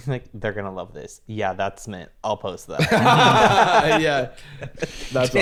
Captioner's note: laughs